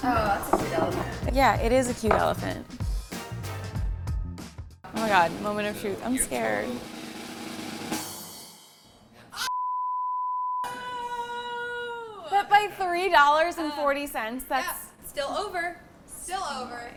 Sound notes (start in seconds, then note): 7.7 drum roll; 8.5 cymbals; 9.6 beep